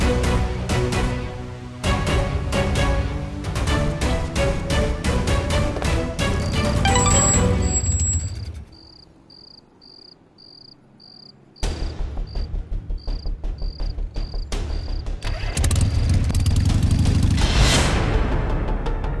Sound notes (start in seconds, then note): 6.8 phone rings; 8.7 crickets chirping; 15.2 bike engine starts